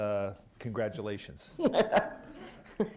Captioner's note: laughter